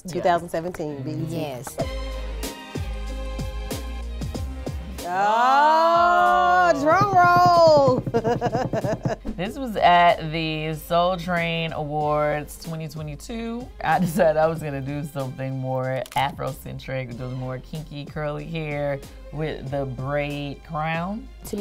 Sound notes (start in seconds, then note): 1.8 upbeat strings music; 8.1 laughing